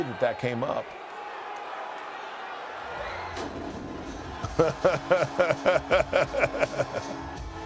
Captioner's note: laugh